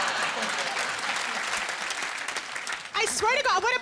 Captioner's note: applause